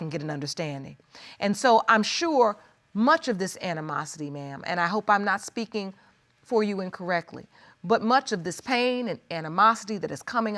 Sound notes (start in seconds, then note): none